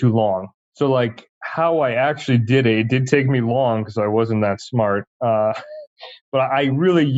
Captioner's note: laughs